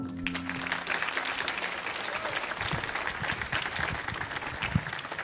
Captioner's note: audience applauding